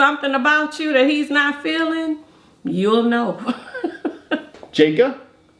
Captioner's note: laughs